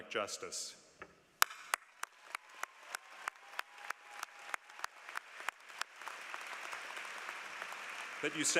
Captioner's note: applause